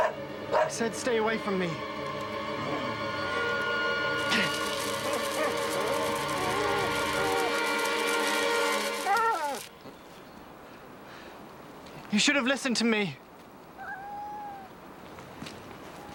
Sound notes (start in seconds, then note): 4.7 Spot whimpering; 13.7 meows